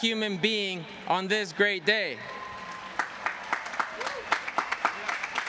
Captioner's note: cheers and applause